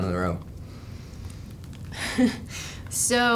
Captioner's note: laughs